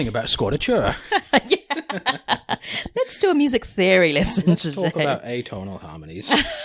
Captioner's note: laughs